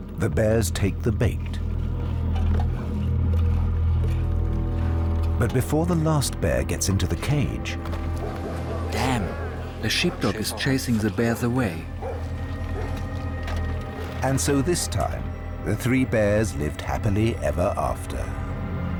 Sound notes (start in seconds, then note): 9.2 in German; 11.9 dog barking